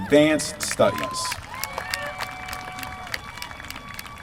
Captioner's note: applause